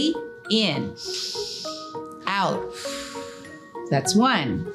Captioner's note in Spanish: inhala bruscamente; Silbido de respiración